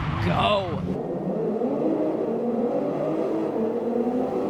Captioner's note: engines roaring